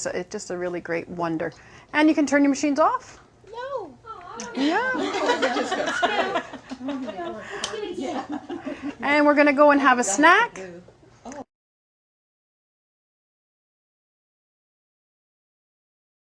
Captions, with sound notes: The screen is just, it's just a really great wonder...and you can turn your machines off. no..ahh...ya, (laughing) And we're going to go and have a snack.